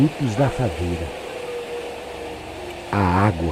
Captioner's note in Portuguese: Vento uivante